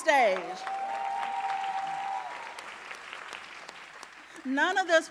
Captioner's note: audience cheering and applauding